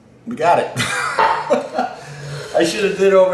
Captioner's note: laughs